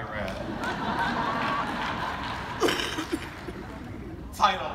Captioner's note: audience laughing